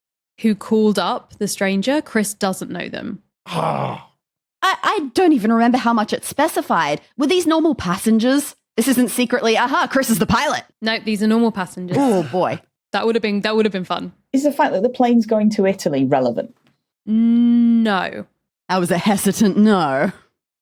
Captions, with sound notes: who called up the stranger, Chris doesn't know them. Argh! I don't even remember how much it specified. Were these normal passengers? This isn't secretly, "Aha, Chris is the pilot!"? Nope, these are normal passengers. Oh boy. (chuckles) That would've been fun. Is the fact that the plane's going to Italy relevant? ...No. That was a hesitant no.